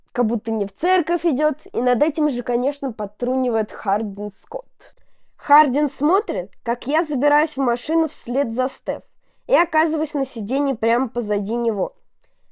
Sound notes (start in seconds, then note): none